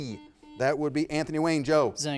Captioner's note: buzzer beeping